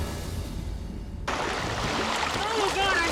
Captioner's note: water splattering